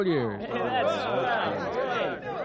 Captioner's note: crowd chattering